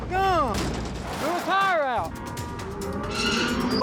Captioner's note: horse neighing